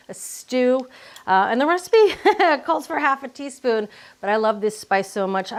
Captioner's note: laughs